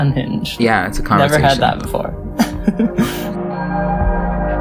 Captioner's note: laughs; laugh